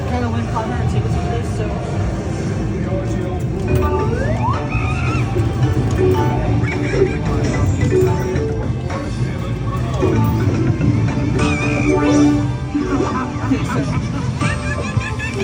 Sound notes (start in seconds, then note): 3.4 inserting quarters; 12.9 monkeys chattering